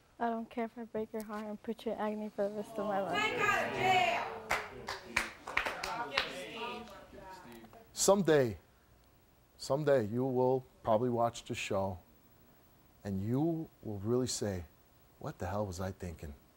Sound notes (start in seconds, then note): 5.2 audience jeering